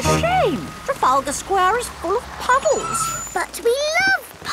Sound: tires screeching

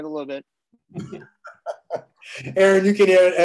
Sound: laughter

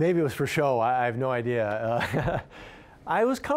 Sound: laughing

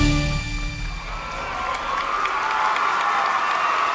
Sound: applause & Cheering

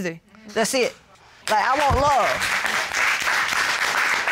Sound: audience applauds

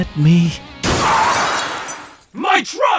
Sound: car tires screeching

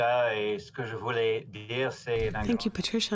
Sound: speaking French

